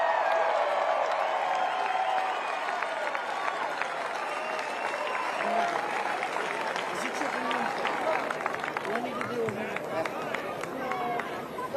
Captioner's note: cheers and applause